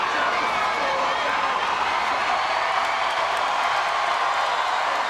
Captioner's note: spectators cheering